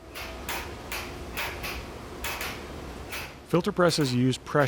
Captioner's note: machinery clicks